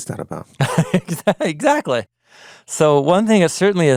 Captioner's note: laughing